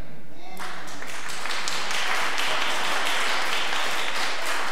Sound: audience applause

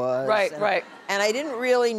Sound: audience laughing

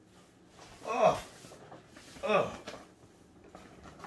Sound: groaning

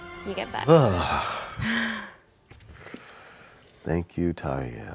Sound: sighs

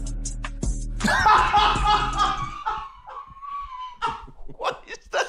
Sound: laughing

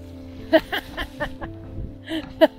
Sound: laughter

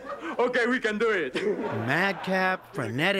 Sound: laughter

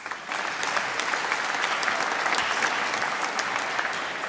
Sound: applause

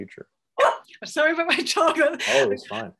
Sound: dog barking; laughs

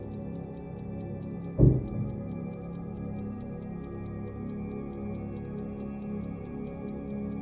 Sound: ominous music; object thuds

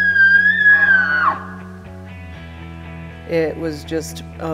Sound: bull bugles

